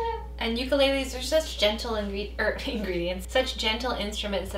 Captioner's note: laughs